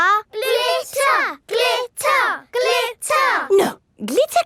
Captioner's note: chanting